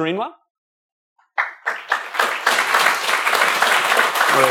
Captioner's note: applause